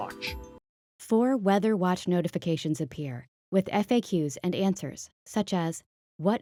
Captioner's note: voiceover